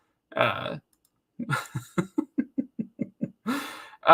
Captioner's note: giggles